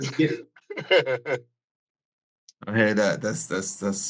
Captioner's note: laughs